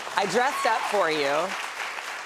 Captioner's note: applause